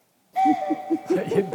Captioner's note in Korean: ㅋㅋ